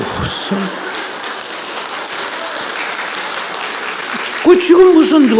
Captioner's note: audience Laughter/Applause